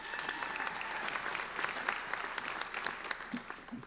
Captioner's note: applauding